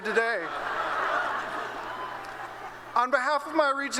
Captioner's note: laughter